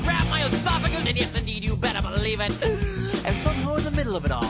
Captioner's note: deep breath